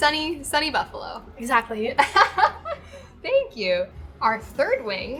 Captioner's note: laughs; laughs